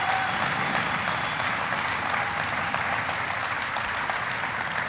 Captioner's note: applause